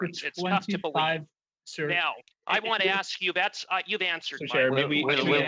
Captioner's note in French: voix de l'interprète